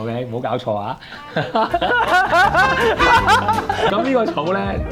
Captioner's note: laughs in chaos